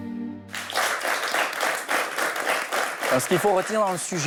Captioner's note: applause